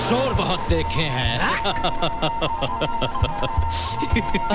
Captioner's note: Laughs